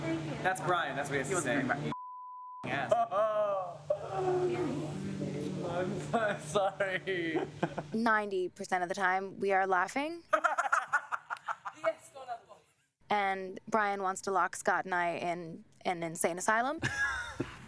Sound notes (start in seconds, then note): 6.0 laughs; 10.3 laughter